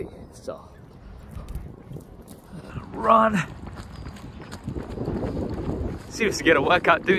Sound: wind blowing

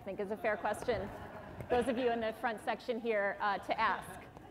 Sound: laughter

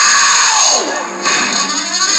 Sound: thud

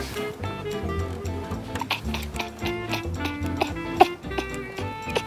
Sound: hehehe

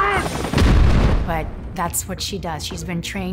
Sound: shouting; weapons exploding

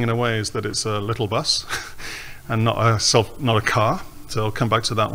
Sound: laughs

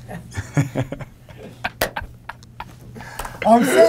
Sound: laughter

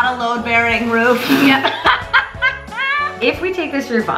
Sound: laughs

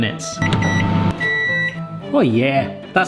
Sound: beeping

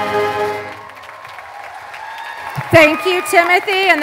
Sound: applause

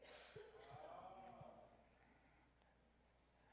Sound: crowd

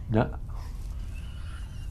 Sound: laughs

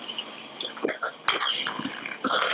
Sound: confused

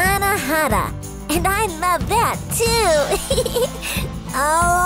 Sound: giggles

